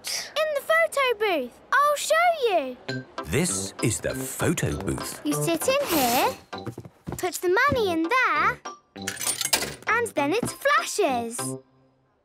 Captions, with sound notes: - In the photo booth. I'll show you! - This is the photo booth. - You sit in here... Put the money in there... - (coin tumbling) - And then it flashes.